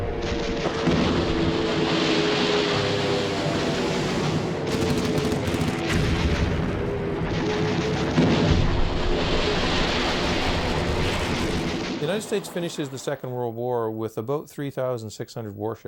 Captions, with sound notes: (water crashing) (guns firing) (explosions booming) - The United States finished the Second World War with about 3,600 warships.